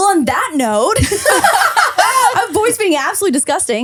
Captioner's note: laughing